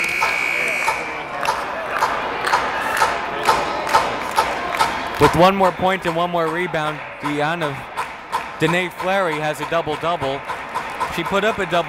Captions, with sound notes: (buzzer blaring) With one more point and one more rebound, Denea Fleary has a double double,